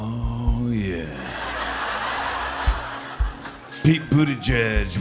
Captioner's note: laughter